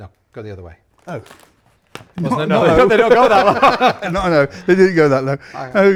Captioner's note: both laugh